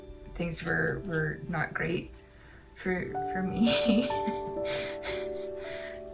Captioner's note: laugh